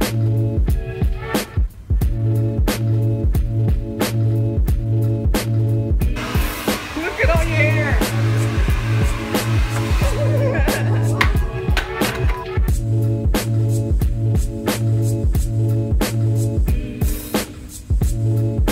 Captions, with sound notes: Look at all you hair! *laugher*